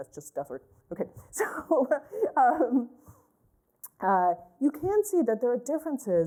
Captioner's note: laughter